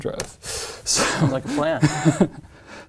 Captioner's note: laugh